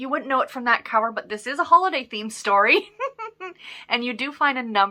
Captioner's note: giggles